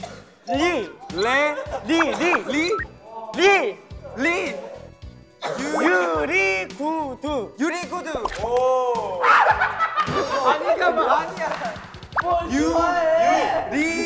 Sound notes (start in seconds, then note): 9.4 everybody laughing